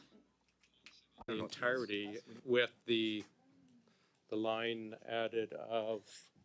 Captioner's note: speaking French